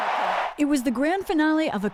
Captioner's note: cheering